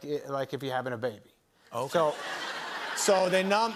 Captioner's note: laughter